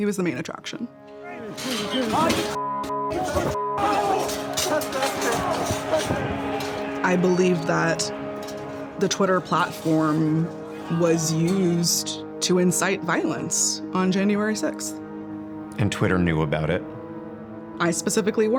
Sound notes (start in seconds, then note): 0.3 people talking angrily; 3.1 people shouting in distance